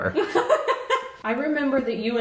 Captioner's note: laughing